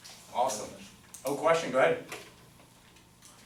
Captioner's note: voiceover